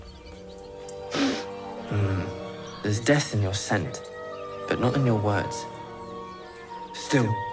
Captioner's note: sniffs